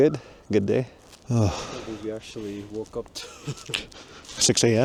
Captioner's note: laughs